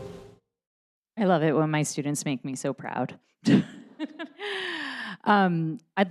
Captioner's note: laughs